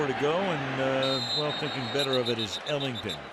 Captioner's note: whistle blows